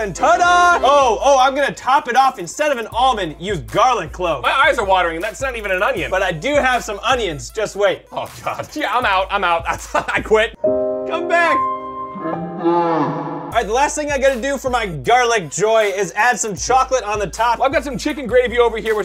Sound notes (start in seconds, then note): 9.6 laughs; 10.5 sad music